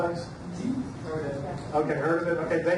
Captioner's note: audience murmurs